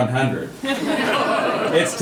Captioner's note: audience laughing